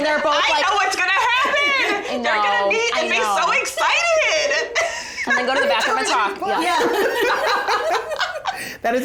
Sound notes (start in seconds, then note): 5.0 laughs; 6.5 all laugh